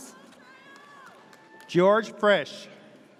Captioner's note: audience cheers